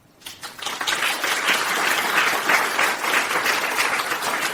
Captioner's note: crowd applauding